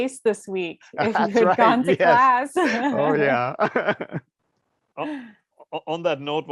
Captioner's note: laugh